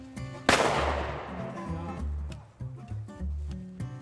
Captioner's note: booming